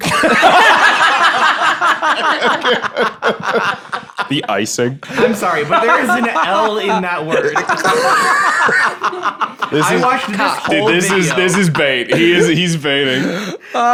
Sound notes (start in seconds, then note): 0.5 all laughing; 7.9 both laughing